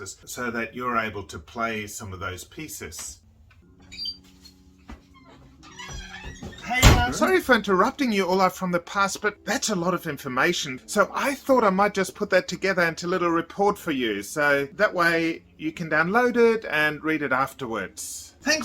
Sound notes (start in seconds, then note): 4.9 door creaking; 5.7 door slams